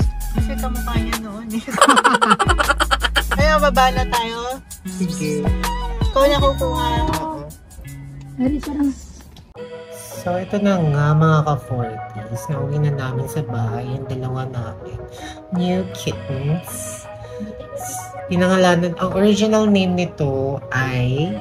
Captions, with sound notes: Because she looks like him before [Laughing SFX] Let's go down Alright Are you the one who will get it? Stay away there So, this is it my fellow 40s we have brought them home, our two New kittens They named them. Her original name is